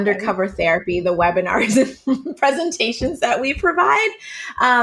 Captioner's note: laughing